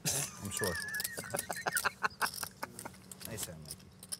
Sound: laughter

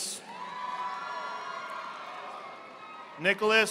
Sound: audience applauding

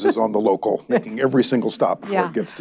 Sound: laughs

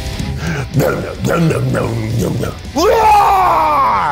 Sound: growling

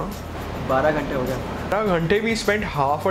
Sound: speaking foreign language

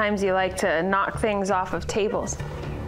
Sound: giggling

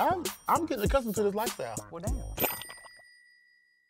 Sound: bell dings

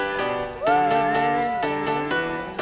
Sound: students woo’ing

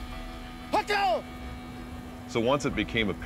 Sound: in chemehuevi

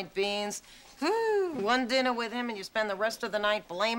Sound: exclaiming

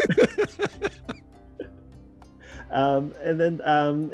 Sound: laughs

